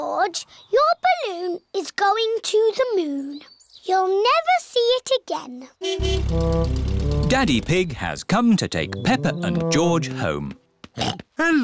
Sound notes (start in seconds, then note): 5.8 horn honking; 11.0 snorts